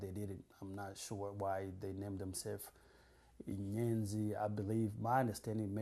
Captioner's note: non-english